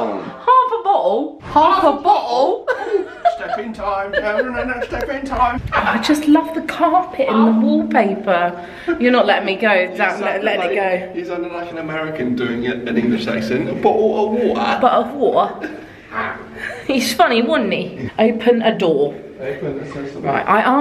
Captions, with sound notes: - Half a bottle. - Half a bottle? Stepping time. (humming) Stepping time. - I just love the carpet and the wallpaper. You're not letting me go, I'm not letting go. - He's sounded like an American doing an English accent. Bottle of water. - Bottle a water. He's funny. Wasn't he? Open a door open? Right.